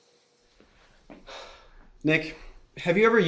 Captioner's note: bill sighs